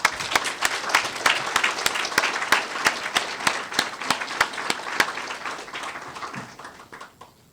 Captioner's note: applause